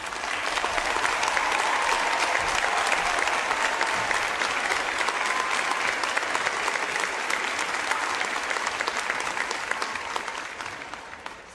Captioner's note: applause